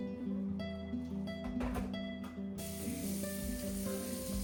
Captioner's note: sizzling